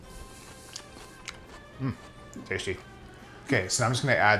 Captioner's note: grunting